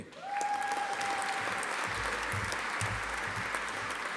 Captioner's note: audience applauding